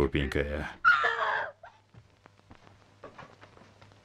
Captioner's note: screaming